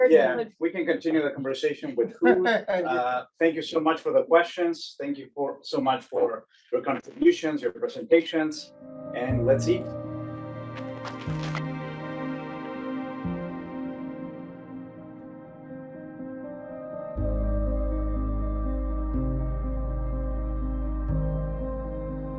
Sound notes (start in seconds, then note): 1.8 man laughing; 10.8 applause; 12.2 solemn piano music